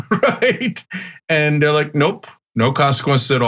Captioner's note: laugh